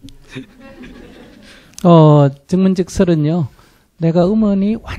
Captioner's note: audience laughter